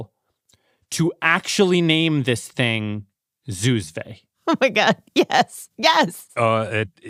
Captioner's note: laughs